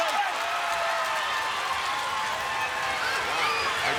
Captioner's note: crowd applauds